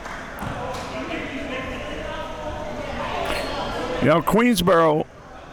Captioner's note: audience and players chattering